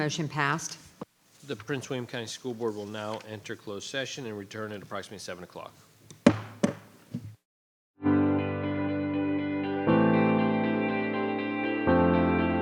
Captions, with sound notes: Motion passed. - The Prince William County School Board will now enter closed session and return at approximately seven o'clock. (gavel tapping) (energetic music)